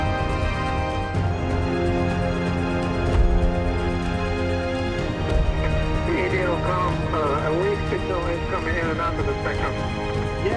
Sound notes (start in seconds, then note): 3.1 multiple impacts